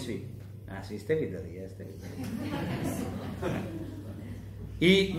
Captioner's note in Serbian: laughs